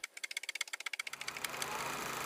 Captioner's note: typewriter clanking; projector whirring